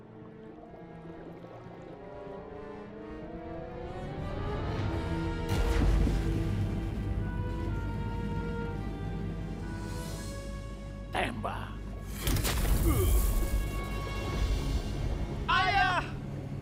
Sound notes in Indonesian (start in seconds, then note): 12.8 Raja Atlas mengerang